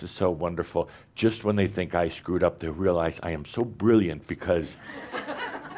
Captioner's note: laughter